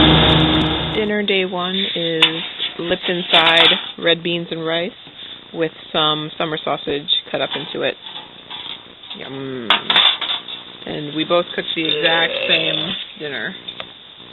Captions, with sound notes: - Dinner day one is... Lipton side red beans and rice with some summer sausage cut up into it. Yum. [pot clatters] And we both cooked... - Ugh! - The exact same dinner.